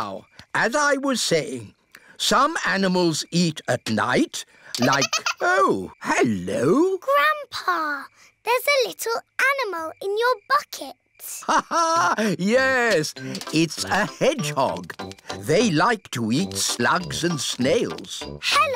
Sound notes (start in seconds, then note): 4.7 giggling